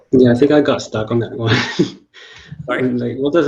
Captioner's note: chuckles